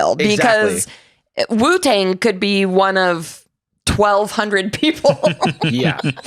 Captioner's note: laughs